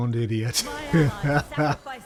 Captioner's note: laughter